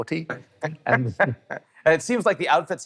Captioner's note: laughs